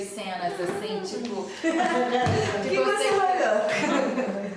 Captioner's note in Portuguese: risos